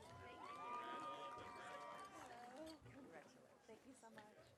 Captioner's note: audience cheering